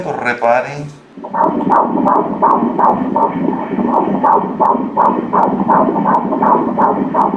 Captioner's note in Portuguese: batimentos cardíacos